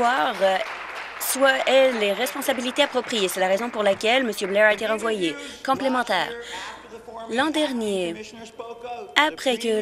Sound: applause

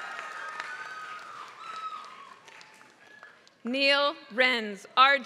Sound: applause

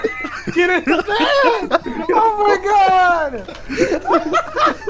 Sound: laughter

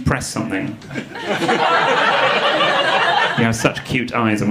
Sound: audience laughing

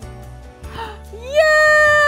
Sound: gasps

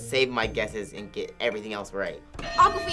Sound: bell rings

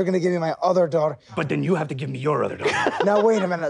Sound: Sam laughs

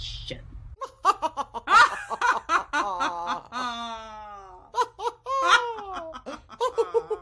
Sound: mwa hahaha ha ha ha ha

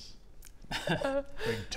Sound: nervous giggle

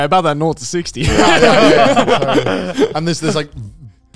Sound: all laughing

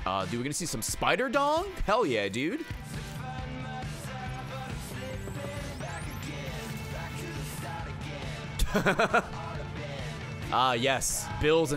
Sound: laughs

